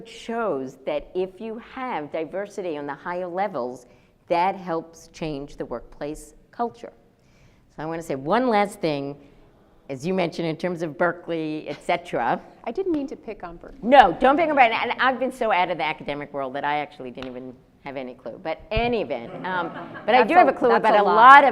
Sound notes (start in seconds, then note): 19.2 audience laughs